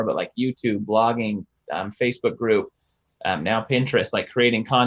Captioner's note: none